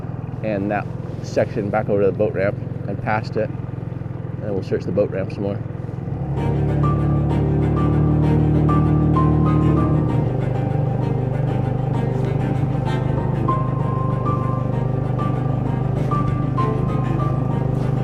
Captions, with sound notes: and that section back over the boat ramp right past it, and we'll search the boat ramp some more. (light music) (boat rumbling)